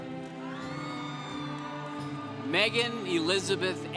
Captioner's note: congregation cheering